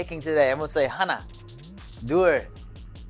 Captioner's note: foreign language